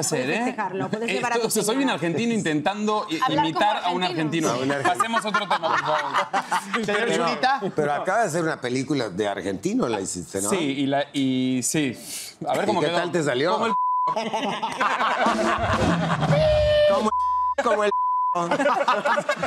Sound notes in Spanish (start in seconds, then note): 14.0 Risas; 17.0 Bip